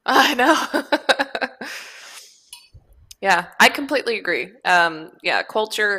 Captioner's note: laughs